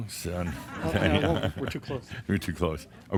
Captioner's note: laughter as he mimes taking a selfie; Adamus chuckles